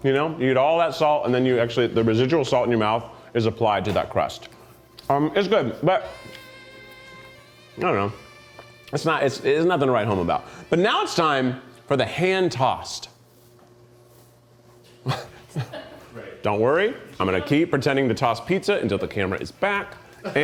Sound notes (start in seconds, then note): 15.0 chuckles